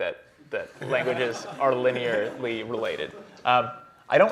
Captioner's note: laughter